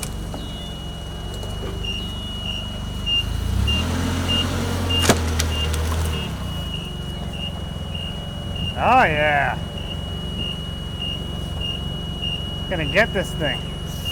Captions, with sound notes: (fork truck beeping) Oh yeah! We're gonna get this thing.